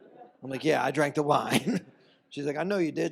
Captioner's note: laughs